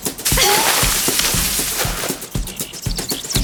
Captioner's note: water squirt